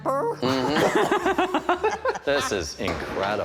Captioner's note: laughter